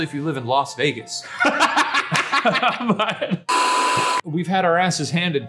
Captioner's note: laughing